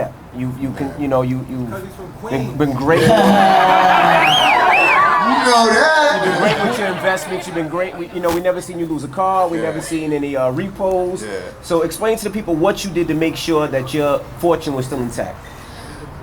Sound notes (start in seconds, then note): 2.8 laughs; 2.8 audience cheering